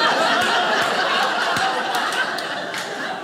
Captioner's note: audience laughing